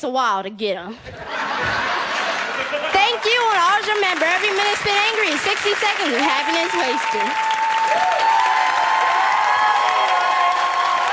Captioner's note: laughter, Applause and Standing Ovation